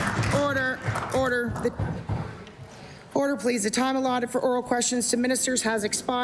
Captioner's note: applause